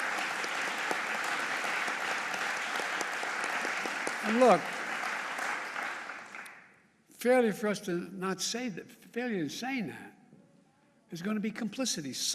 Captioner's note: applause